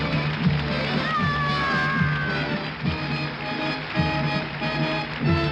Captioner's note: applause